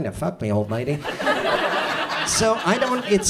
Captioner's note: audience laughs